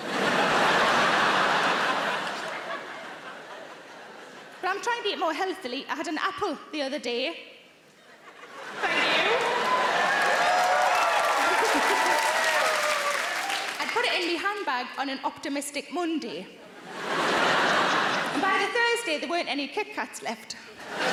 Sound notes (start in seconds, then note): 0.0 audience laughing; 8.0 audience laughing; 8.7 audience cheering; 9.6 Sarah laughing; 16.7 audience laughing